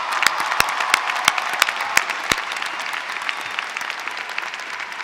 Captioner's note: applause